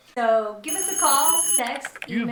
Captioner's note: phone rings; typing